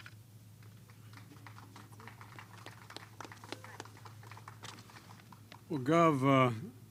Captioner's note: applause